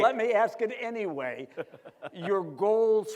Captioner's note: laughs